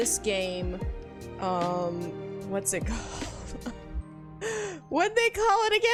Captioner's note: laughs